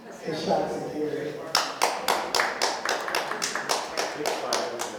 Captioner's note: applause